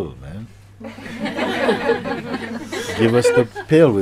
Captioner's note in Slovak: Smiech